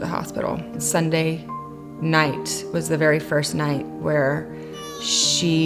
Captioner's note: crying